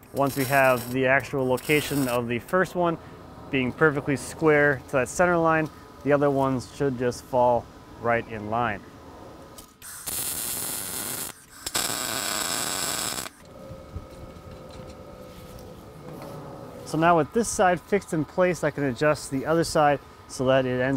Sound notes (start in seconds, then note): 9.6 sharp buzzing